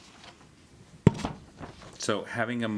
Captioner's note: papers rustling